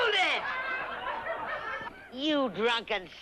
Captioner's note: crowd quiets down